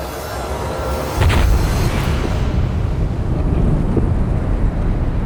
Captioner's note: bombs exploding